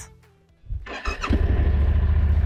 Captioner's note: ignition noise